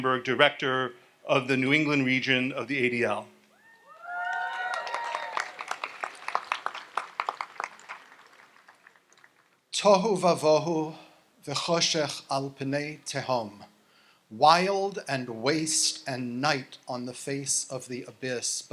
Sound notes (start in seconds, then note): 3.8 audience applauds and cheers; 10.1 speaks in Hebrew